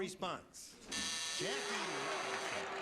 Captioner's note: buzzer